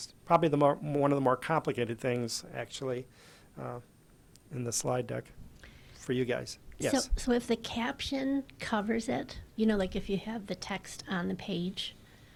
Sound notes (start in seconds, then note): 7.4 voiceover